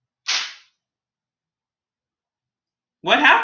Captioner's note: paper hitting floor